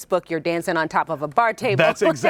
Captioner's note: laughs